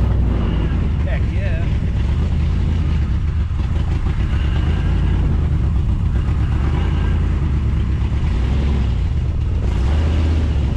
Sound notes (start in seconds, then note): 2.4 engine purrs